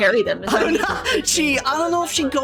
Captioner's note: laughing